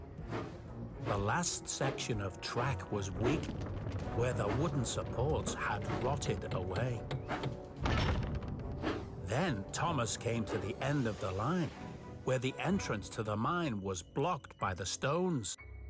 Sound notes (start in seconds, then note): none